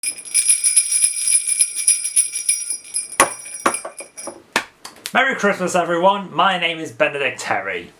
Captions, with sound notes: [bells ringing] Merry Christmas, everybody. My name is Benedict Terry.